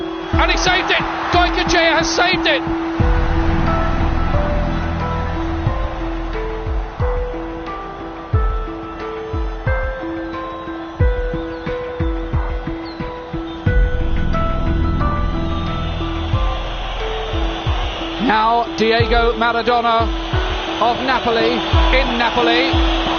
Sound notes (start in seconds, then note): 16.0 crowd whistling